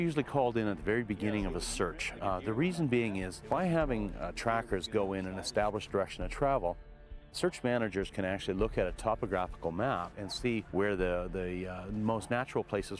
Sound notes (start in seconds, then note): 6.7 voiceover